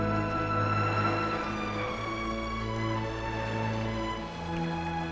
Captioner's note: waves lapping